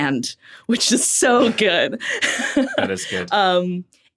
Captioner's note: laughs